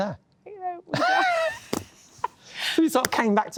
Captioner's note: laughing